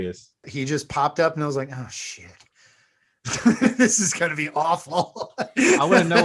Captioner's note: laughs